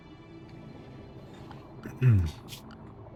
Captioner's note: clears throat